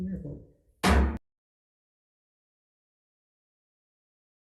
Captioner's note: hammer thuds